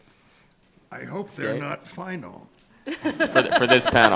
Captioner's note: laughing